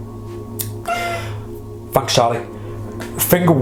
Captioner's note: high pitched wheezing